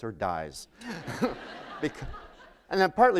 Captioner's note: laughter